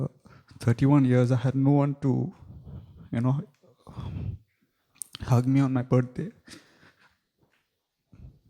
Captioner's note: sobbing softly